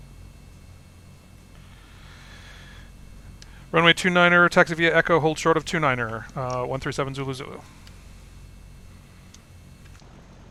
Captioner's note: me on radio